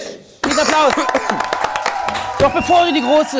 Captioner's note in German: Jubel, Applaus